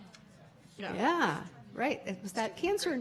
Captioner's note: murmurs from audience